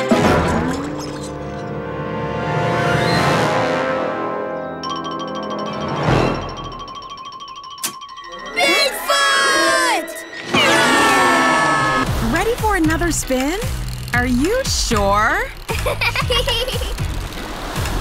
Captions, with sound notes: Bigfoot! [screaming] Ready for another spin? Are you sure? [laughing]